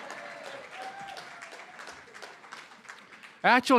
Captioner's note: applause